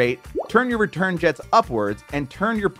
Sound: graphics popping

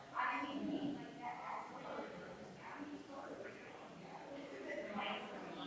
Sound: people chattering distantly continues

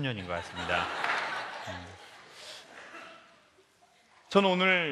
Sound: laugh

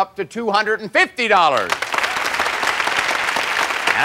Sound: applause

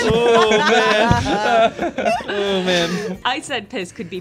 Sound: group laughter

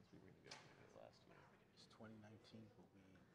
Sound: speaking faintly

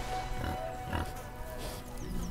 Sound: pigs grunt

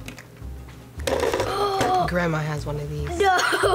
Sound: gasps

